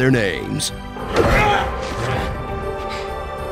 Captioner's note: groaning